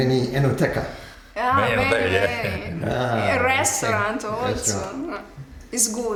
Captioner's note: laughs